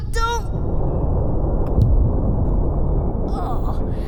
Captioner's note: low, distant thump